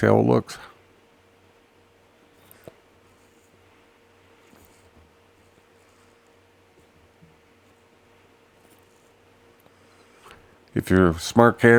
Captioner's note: silence